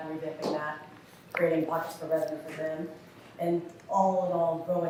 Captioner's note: faintly speaking